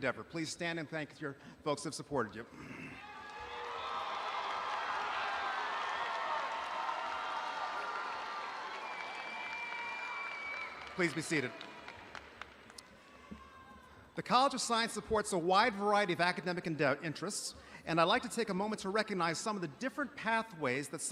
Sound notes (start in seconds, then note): 3.4 audience applauding